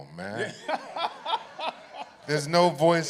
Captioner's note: laughter